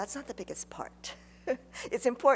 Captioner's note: laughs